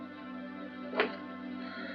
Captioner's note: door opens